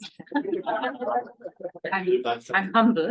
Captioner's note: everybody laughing